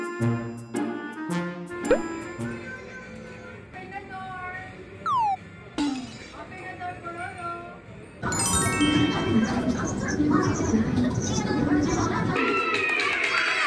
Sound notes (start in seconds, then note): 5.8 sighing